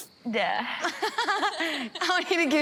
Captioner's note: blonde Women hoot; people laughing